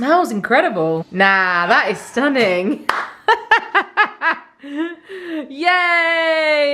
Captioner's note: laughing; laughing